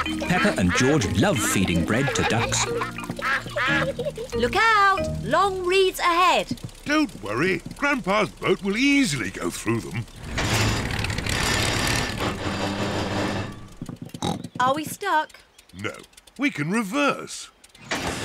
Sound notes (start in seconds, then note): 10.3 clunks and splutters; 14.1 snorts